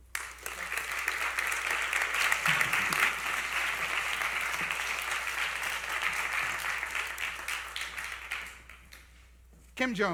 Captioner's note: applause